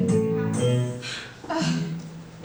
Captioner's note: sighs